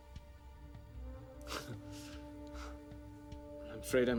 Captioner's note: chuckles